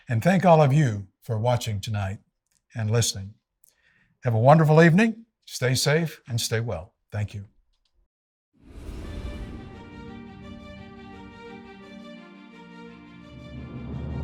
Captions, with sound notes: And thank all of you for watching tonight and listening. Have a wonderful evening! Stay safe and stay well, thank you. (wind whooshing) (dramatic music)